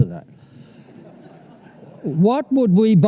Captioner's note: laughter